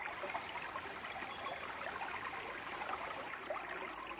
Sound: kingfisher chirping

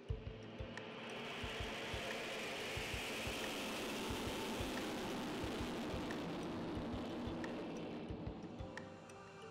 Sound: ER-2 taking off

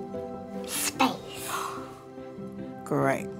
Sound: gasps

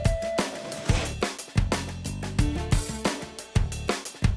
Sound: upbeat music; trowel scraping; upbeat music

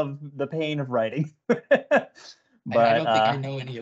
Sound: laughs

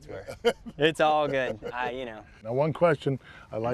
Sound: laughter

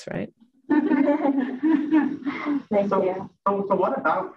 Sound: group laughs

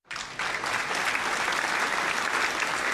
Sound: cheering

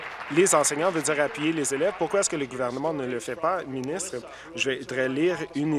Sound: applause

